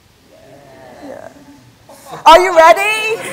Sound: audience chatter

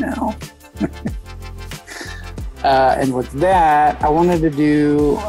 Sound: laughs

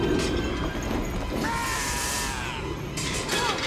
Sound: groaning

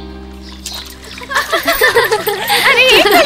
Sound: laughs

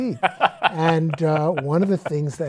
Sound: laughs

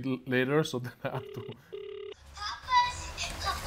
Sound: phone line trilling

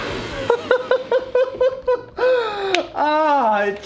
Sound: laughs

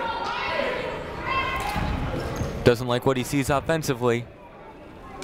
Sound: shouting

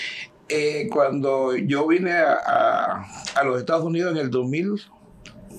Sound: speaking in Spanish

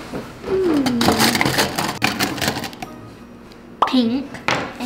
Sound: markers shuffling

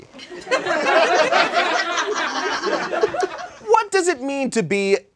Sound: audience laughs

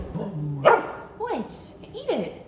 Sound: Gus barking

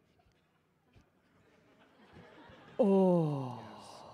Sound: audience laughing

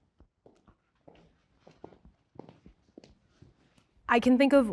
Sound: footsteps clicking

